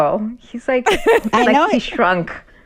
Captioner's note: laughter